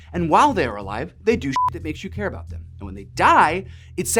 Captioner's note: beep